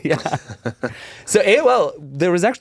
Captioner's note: chuckle